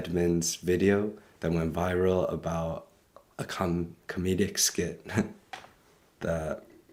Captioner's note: chuckles